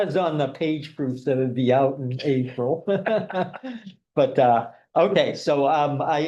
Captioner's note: laughing